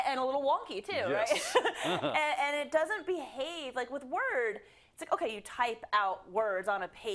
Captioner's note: laugh